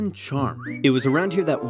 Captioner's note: whistles